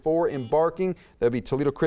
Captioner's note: buzzer beeps